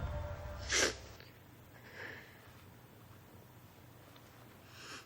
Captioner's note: Marlee sniffling